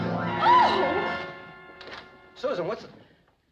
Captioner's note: screams